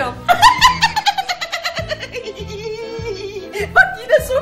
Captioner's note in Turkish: gülme sesi̇